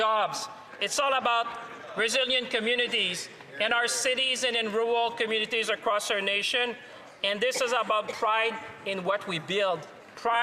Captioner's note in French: voix de l'interprète